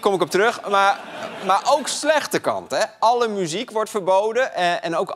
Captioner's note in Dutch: gelach